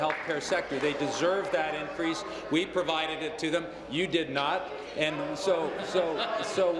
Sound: applause

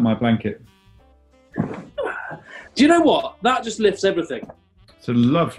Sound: sighs

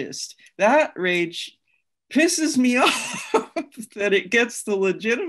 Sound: laughs

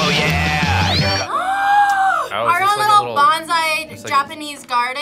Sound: gasps

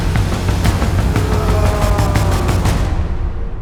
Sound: screams; music fades

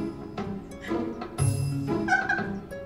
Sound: Annabelle laughing

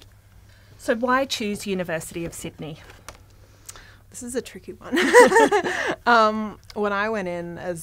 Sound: laughter

